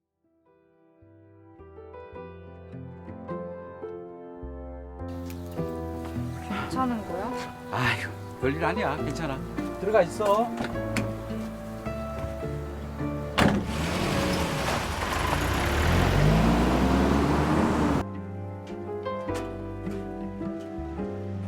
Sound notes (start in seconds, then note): 0.3 gentle piano music; 6.6 speaking in Korean; 13.4 engine revving